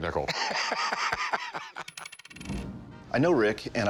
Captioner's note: laughing